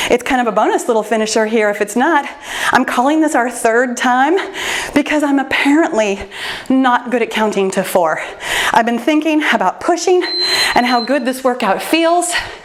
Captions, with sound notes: It's kind of a bonus little finisher here if it's not, I'm calling this our third time, because I'm apparently not good at counting to four. I've been thinking about pushing (timer beeps) and how good this workout feels,